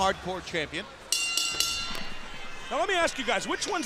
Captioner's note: bell ringing